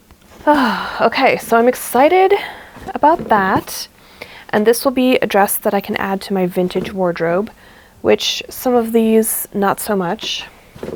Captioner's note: happy sigh